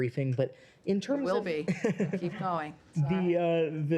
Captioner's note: laughter